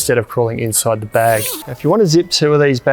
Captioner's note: zip rasping